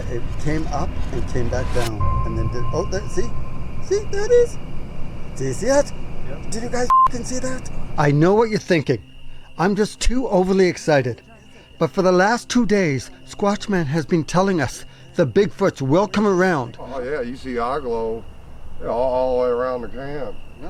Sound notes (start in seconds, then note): 6.8 beep